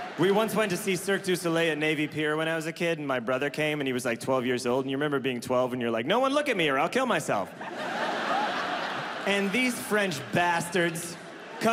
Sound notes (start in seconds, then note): 7.4 audience laughs